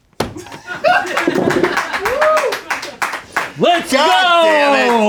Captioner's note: laughs; crew laughs and cheers